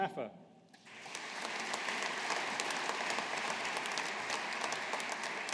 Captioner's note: audience applauding